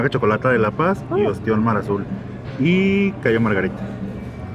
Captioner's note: speak in Spanish